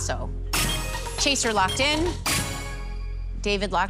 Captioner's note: chime